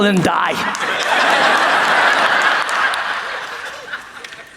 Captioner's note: audience laughs